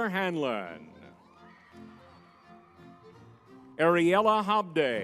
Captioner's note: lively music; crowd cheering